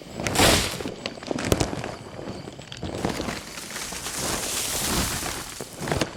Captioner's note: heavy footsteps thumping